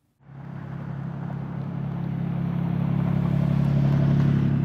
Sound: roadway noise

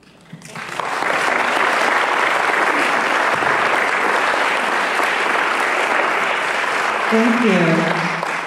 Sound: applause

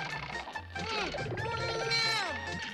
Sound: exclaims

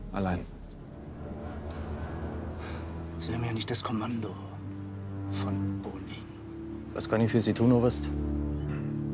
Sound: dramatic music; sighs

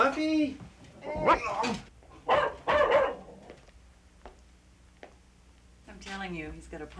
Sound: dog barks

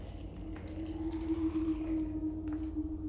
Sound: distant gurgling

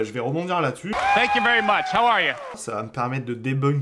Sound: screaming in the audience

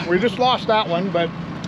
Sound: chuckling

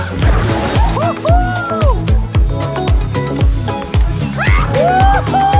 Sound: water splashing

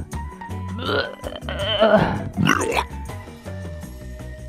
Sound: vomit noise

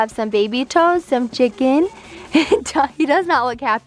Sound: laughs

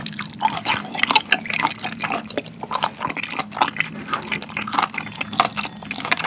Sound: still chewing

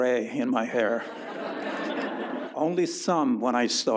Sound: audience laughs

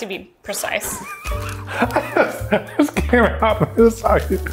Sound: laughs

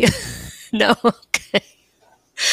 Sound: giggles

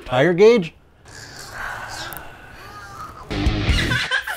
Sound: sighs

